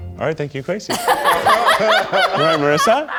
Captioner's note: audience laughs